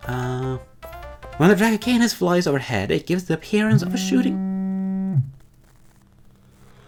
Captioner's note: phone rings; phone continues ringing